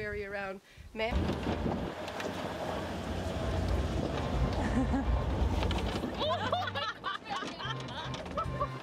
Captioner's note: all laughing and screaming